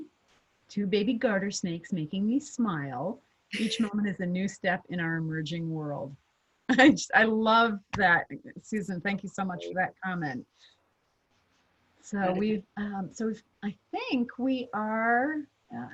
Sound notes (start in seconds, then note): 6.5 chuckling